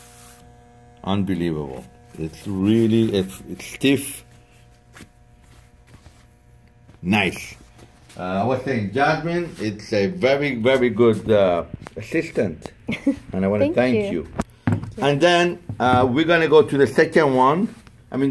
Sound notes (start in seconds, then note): 12.8 laughs